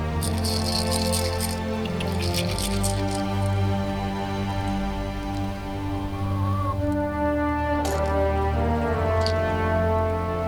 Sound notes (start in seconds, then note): 0.0 seeds rattling; 6.0 chickens clucking